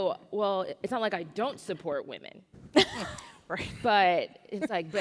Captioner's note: laugh of shock